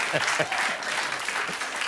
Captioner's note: laughter